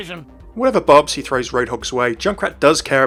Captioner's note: voiceover